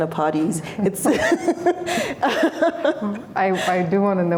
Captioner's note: laughter